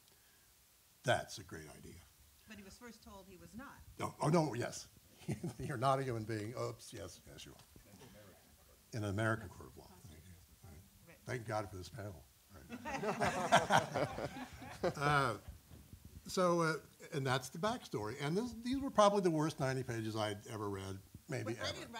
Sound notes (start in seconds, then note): 12.6 laughter